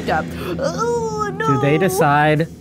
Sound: groans

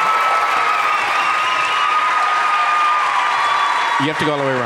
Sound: audience applauding and cheering

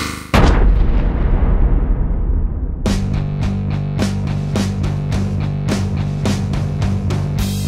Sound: boom!

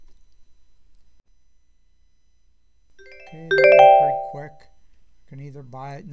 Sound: ding!

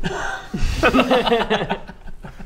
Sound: giggles at the table

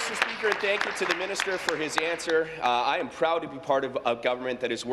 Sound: applause

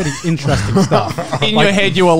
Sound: men laughing

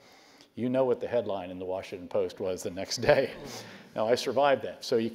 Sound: laugh

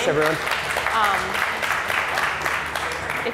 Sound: applause

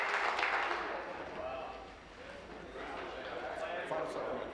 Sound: applause

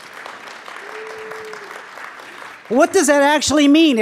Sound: audience applauds

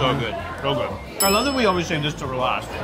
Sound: bell dings

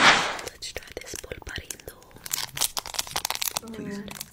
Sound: whispers

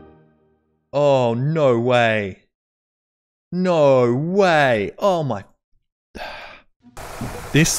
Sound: exhale

